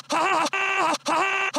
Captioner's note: glitchy